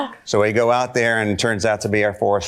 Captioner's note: none